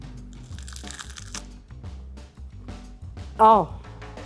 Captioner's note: biscuit crunching